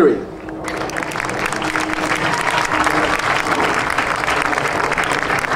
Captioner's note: audience cheering and applauding